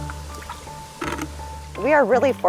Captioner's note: sound of bucket scooping water